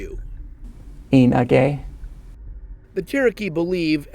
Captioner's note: speaking cherokee